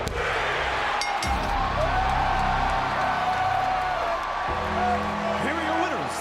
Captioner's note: audience cheers and applauds; bell rings